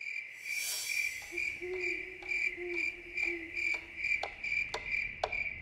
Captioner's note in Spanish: chirrido de grillos; aullidos de búho; tictac del reloj